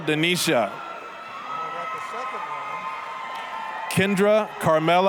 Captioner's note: applause, cheering